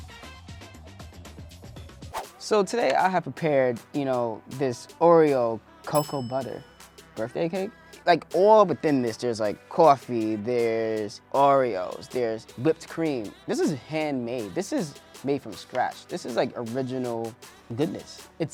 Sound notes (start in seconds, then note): 0.1 scoreboard dings; 5.9 bell dings